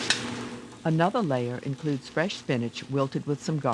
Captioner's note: voiceover